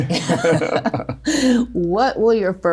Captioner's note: laughing